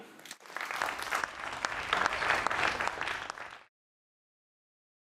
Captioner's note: applause